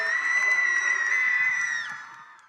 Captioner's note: cheering